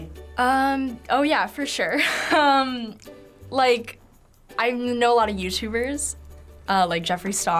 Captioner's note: chuckles